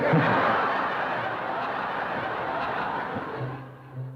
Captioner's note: laughter